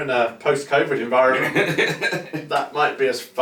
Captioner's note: chuckles heartily